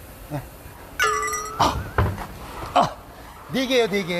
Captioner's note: straining